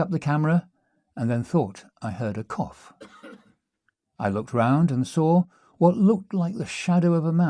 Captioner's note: cough